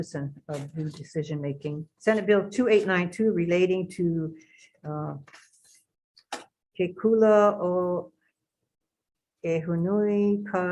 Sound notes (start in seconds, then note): 3.4 speaks in a foreign language